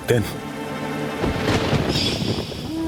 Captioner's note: thunder rumbling